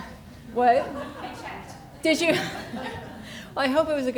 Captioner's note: laughs